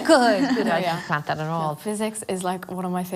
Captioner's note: girls laugh